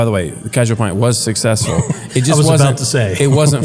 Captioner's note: laugh